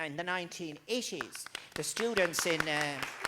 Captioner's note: crowd Clapping